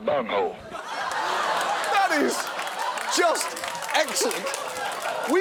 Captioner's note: audience laughing; audience applauds